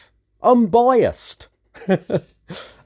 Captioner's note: laughs